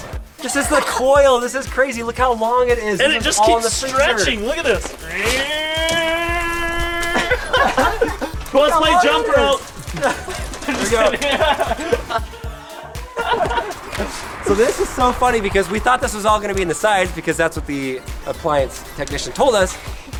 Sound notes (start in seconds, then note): 5.1 grunts; 8.0 laughter